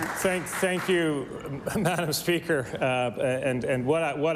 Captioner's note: applause